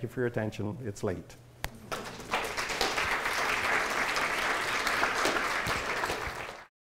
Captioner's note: audience applause